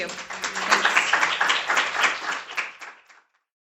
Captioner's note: applause